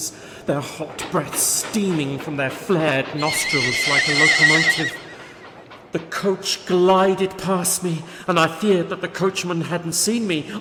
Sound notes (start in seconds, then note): 3.1 horses whinny